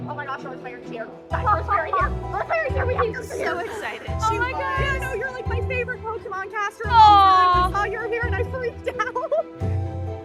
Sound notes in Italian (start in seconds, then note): 3.1 amiche ridono